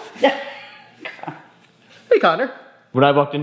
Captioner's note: mom laughing